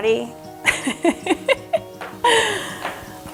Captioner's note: laughs